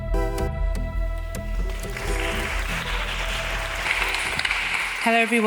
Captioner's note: audience applauding